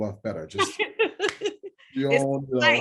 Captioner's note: laughing; clap